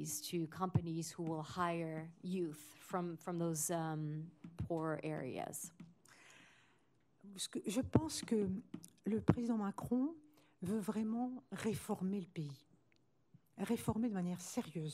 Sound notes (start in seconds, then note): 7.4 speaking french